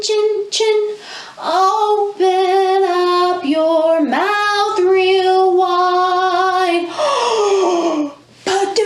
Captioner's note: gasp